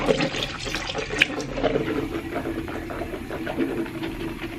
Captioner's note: mouth swishing